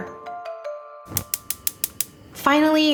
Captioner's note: gas stove clicking